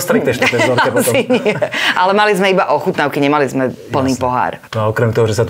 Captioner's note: laughs